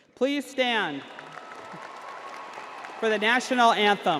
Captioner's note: crowd applauding